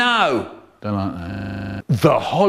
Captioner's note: glitches